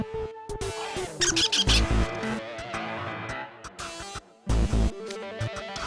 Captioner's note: squeaks